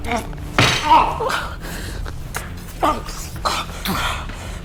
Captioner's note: Max groaning; kick thudding; suspenseful music